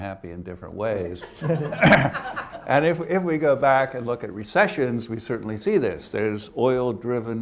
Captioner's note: laughter